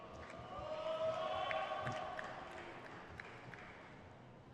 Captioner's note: crowd cheers